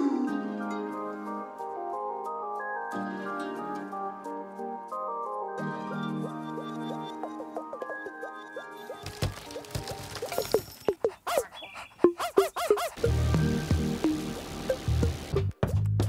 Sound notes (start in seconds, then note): 0.2 gentle music; 11.2 dog barks